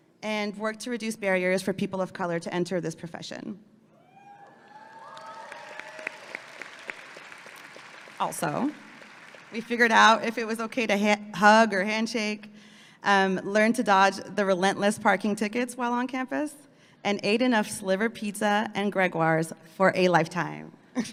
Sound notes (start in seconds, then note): 4.3 audience clapping and cheering